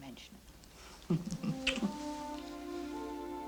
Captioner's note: kissing